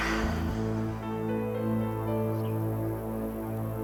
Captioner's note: she sighs